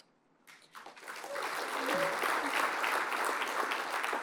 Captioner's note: applause